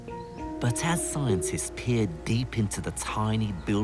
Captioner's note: voiceover